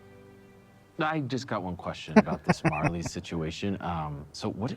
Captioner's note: laughing